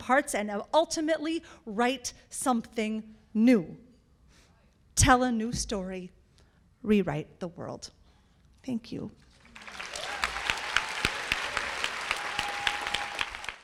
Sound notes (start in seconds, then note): 9.3 applause